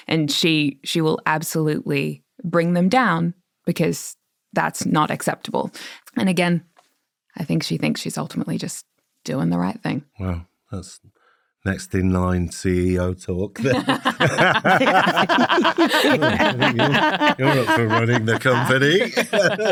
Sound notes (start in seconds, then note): 13.5 all laughing; 19.5 laughing continues